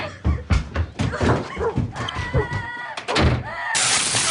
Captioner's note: girl crying; door slams